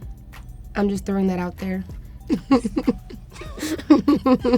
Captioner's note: chuckles